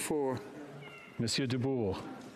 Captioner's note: speaking French